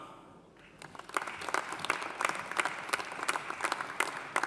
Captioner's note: audience applauding